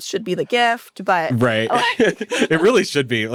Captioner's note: laughs